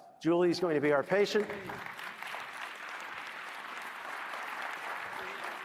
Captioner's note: applause